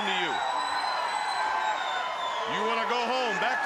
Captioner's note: audience cheering